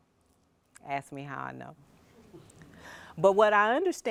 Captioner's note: audience chuckles